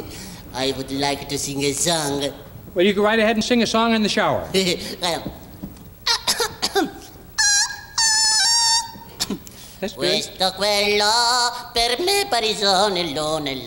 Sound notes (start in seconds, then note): 6.2 gigio clearing throat; 7.2 gigio's voice squeaking; 9.8 singing in foreign language